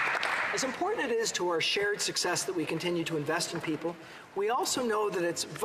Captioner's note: applause